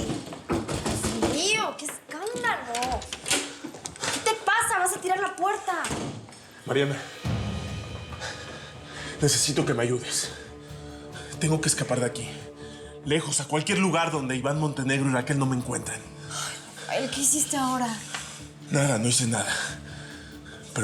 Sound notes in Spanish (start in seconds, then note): 0.5 toques en la puerta